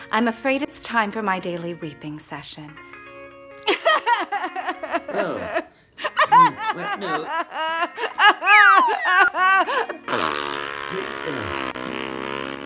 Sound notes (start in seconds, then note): 3.7 crying; 9.8 blowing nose